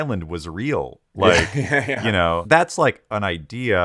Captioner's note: laughing